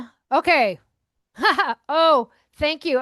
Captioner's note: laughing